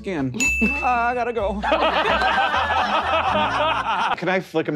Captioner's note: players laughing